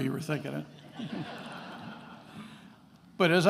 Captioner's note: attendees laughing